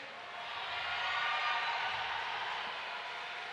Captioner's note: crowd noise - cheers